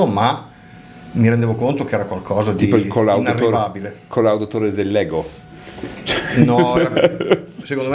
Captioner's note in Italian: risate